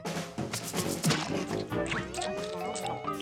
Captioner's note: chewing